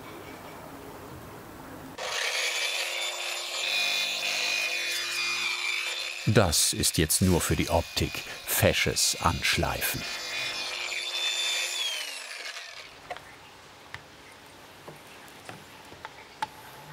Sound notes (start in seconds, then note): 1.9 screeching grinding noise